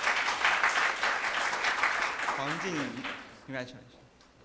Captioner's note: applause